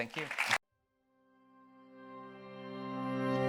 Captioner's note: audience clapping; uplifting music